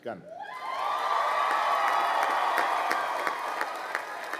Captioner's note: crowd applauding